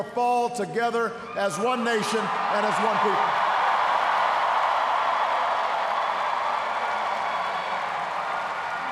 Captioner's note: cheers, applause